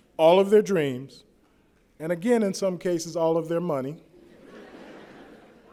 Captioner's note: laughter